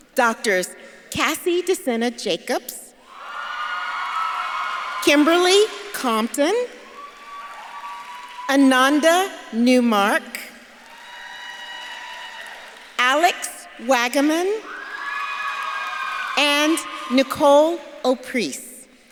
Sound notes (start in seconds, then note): 3.3 audience claps and cheers; 6.9 audience claps and cheers; 10.6 audience claps and cheers; 14.9 audience claps and cheers